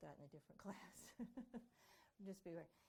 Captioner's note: chuckling